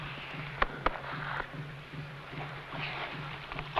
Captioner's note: hand patting